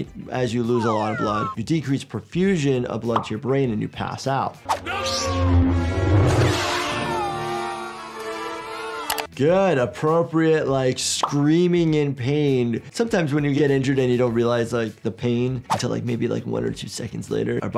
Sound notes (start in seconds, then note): 4.7 lightsaber powering up; 6.6 screaming; 6.8 lightsaber slicing